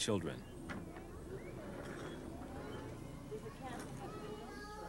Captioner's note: people talking